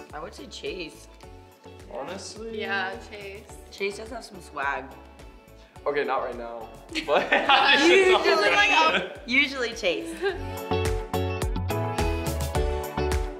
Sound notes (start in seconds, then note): 7.0 laughing; 10.6 upbeat music